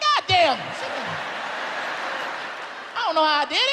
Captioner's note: audience laughs